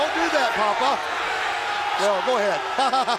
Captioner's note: crowd chatter